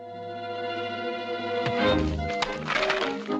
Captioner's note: blow